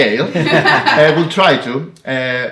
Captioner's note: laughing